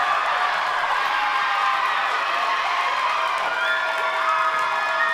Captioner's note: enthusiastic applause